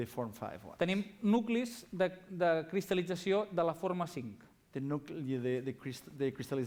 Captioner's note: non-english speech